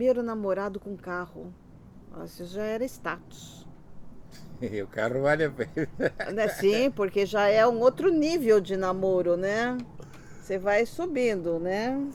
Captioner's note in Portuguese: risos